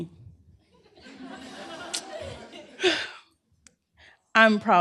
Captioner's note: laughter